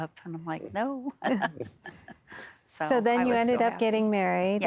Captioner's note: giggling